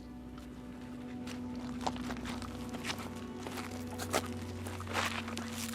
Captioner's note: footsteps thudding